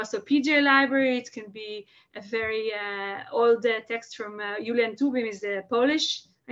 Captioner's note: Hebrew